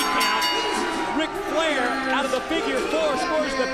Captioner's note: bell ringing